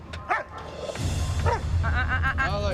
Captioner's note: dog barking